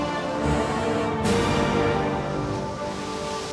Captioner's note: heroic music; waves crashing on shore